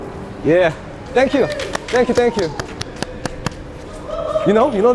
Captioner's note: the audience on the second floor cheering